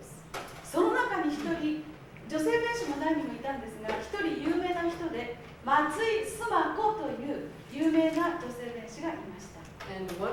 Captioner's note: speaking Japanes